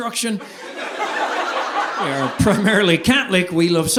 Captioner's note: audience laughing